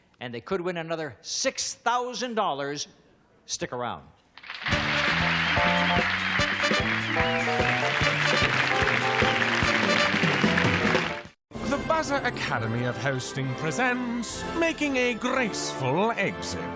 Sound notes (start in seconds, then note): 4.5 theme music plays; 8.1 audience cheers